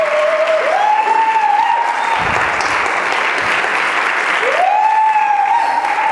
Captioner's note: audience cheering and clapping as walks on stage